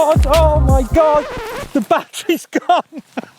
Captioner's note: screeching of tires